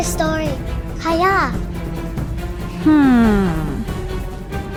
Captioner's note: Cantonese